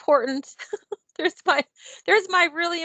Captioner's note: laughs